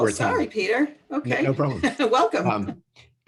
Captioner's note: laugh